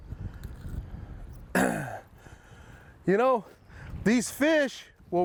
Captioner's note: coughs